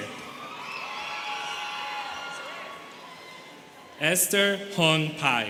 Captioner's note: students cheering